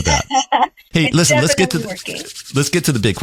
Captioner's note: laugh